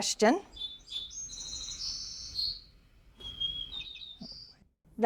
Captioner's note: white-crowned sparrow sings